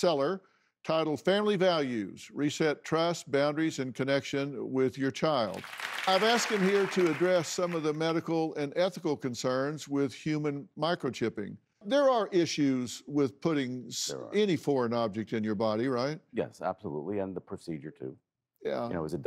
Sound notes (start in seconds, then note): 5.5 audience applauding